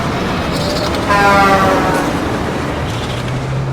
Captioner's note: horn blaring